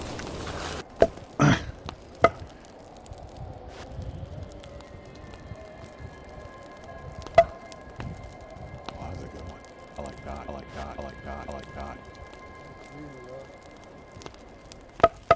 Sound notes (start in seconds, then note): 1.4 grunts; 1.5 bat thunking